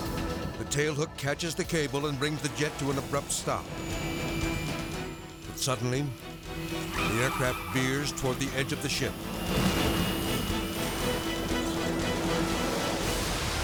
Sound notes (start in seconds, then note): 3.5 aircraft engine whooshing; 9.2 aircraft booms; 10.7 tense music